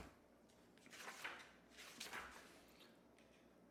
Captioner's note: pages turn